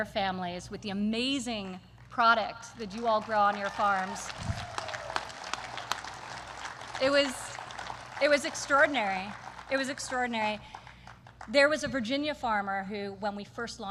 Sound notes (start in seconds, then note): 2.7 applause